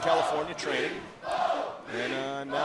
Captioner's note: fans chanting